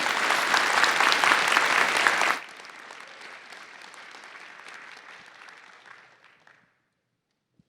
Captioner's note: applause